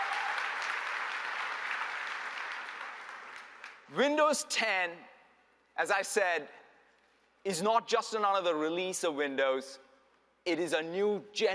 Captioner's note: applause